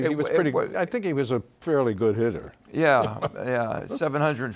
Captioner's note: laughs